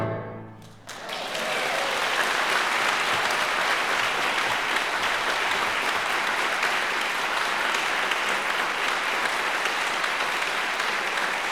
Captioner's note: applause